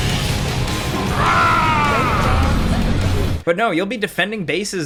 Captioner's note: character screams